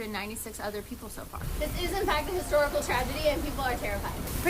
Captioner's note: waves and ship groaning getting louder